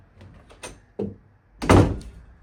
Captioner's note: door slams